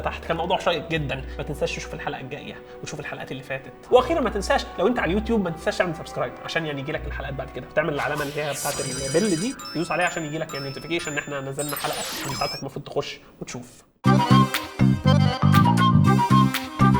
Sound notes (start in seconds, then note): 8.0 bell; 10.7 notification